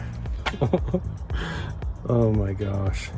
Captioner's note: laughing